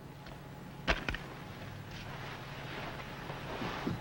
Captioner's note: paper rustles